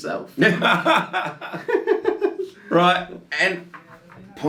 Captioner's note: laughing